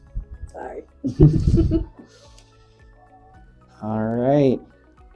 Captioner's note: laughs